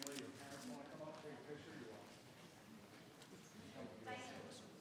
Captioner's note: crowd chattering